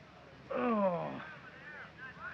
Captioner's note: groans